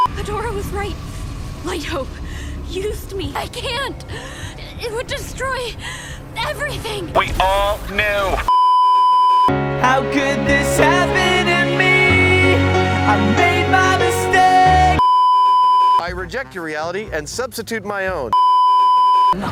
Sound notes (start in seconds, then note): 4.1 gasp; 8.5 beeeeeep; 15.0 beeeeeep; 18.4 beeeeeep